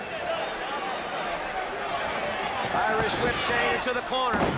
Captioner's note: crowd chatter